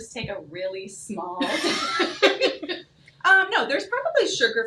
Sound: both chuckle

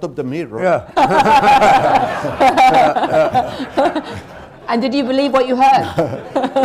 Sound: laughter; laughs, laughter

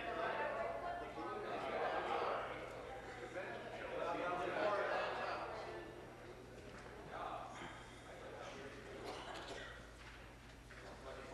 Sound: conversation din

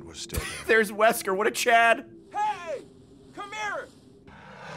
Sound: laughs

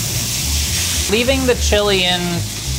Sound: food sizzles

